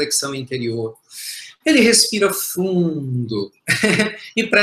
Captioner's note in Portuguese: risos